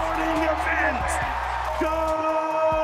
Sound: audience cheering

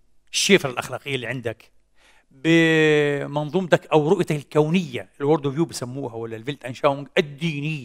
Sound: in German

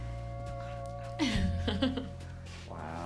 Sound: laughs

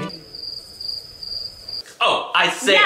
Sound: crickets chirp

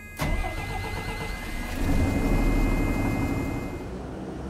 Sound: engine rumbling

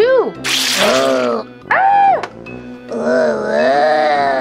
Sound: Marshall growling and shrieking; skeleton growling

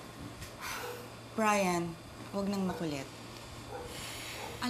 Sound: sighs

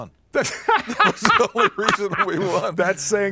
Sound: laughter

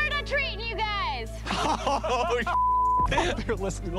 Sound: laughter

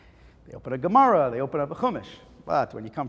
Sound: Hebrew

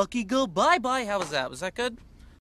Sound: normal voice again

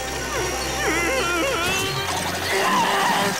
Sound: groaning

